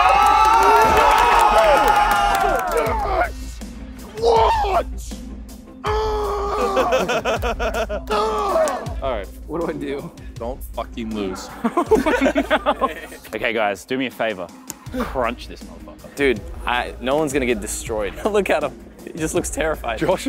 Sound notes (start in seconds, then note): 0.0 contestants cheering; 5.8 grunting and yelling; 6.5 contestants laughing; 8.2 grunting; 11.3 contestants laughing